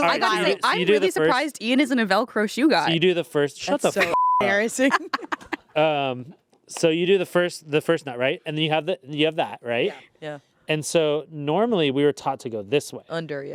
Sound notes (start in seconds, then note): 4.0 beep; 4.8 everyone laughs